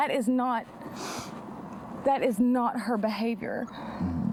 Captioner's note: sniffles